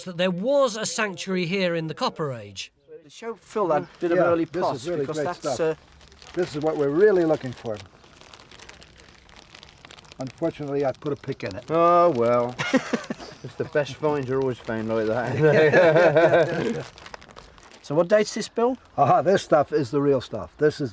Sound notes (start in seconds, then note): 12.6 laughing; 15.2 laughs